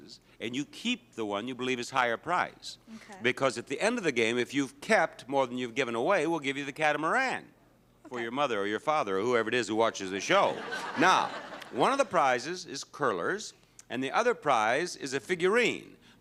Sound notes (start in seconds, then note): 10.3 audience laughs